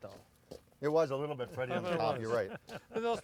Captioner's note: laughing